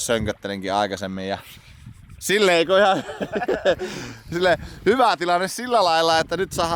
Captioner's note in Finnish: naurua